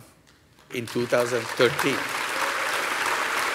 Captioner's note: applause